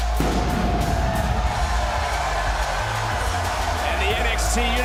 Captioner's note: fireworks; crowd cheers